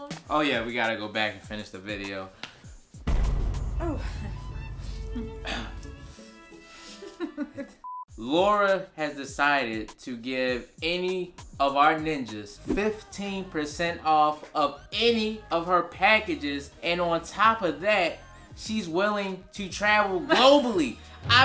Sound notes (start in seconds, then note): 5.2 clears throat; 6.8 laughs